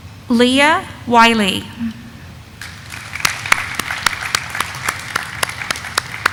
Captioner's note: audience applauding